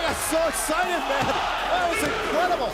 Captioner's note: crowd cheering